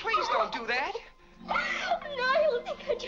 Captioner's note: weeping